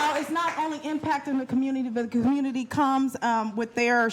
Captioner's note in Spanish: aplausos